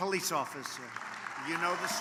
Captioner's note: applause